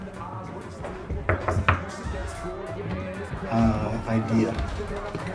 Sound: knocking on door

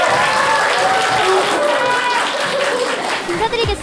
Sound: applause

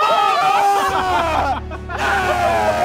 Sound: laughing

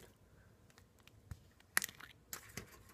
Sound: cap breaking open

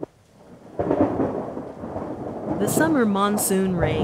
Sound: thundering

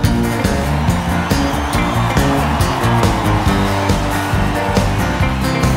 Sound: audience applauds, cheers

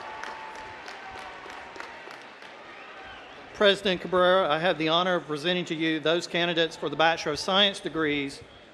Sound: applause

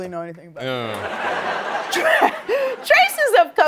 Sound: laughter

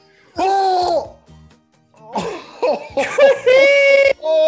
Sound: laugh

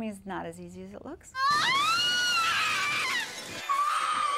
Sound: Willie screaming

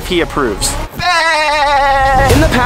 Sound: man imitates SpongeBob

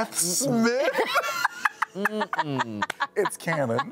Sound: appalled group laughter

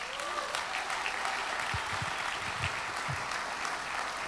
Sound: audience applauds

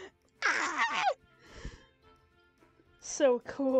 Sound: shrieks

